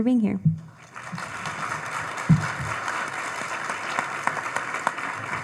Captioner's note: audience applauding